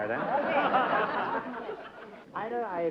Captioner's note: laughter